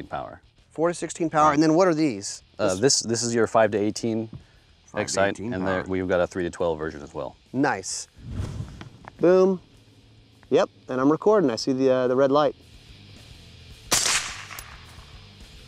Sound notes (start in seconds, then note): 13.8 fires